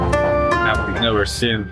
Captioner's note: TV noise in the background